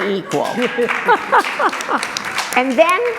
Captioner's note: applause